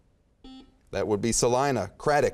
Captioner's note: beeping